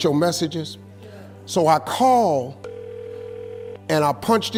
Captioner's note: phone ringing